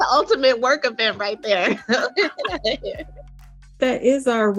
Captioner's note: laughs